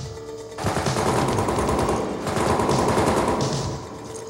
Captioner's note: guns firing